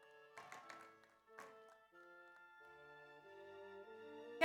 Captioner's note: audience applauds